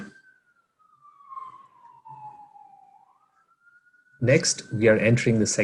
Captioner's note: siren wailing